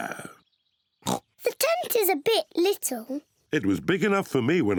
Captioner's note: oinks